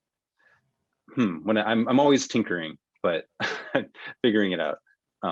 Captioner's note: sighs